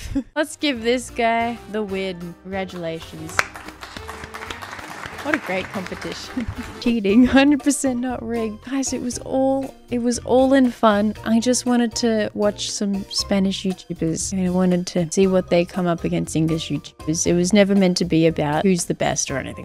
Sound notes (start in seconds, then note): 2.7 applause?; 3.9 laughs